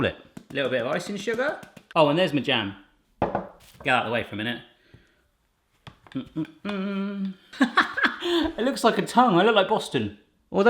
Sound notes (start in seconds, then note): 6.0 humming; 7.6 laughing